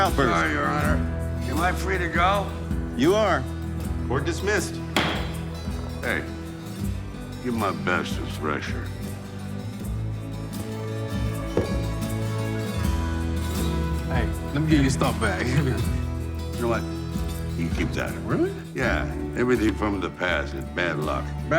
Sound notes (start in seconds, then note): 4.9 gavel bangs; 10.1 gentle upbeat music